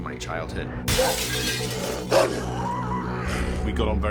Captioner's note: screams; dog barks, growls